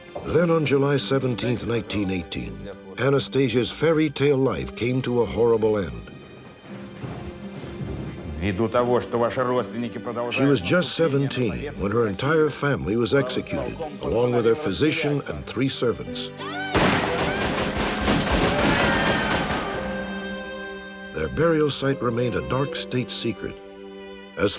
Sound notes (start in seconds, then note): 8.5 speaking russian; 16.7 gunshots